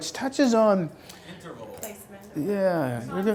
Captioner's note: voiceover